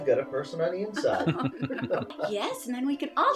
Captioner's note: laughing